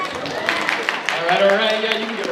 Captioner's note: audience cheers and applauds